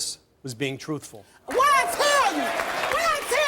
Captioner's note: audience applauding